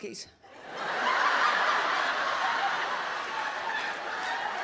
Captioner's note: audience laughs